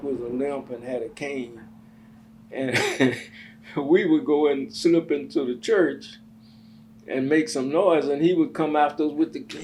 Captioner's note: laughs